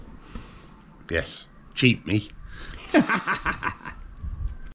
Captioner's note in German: Gelächter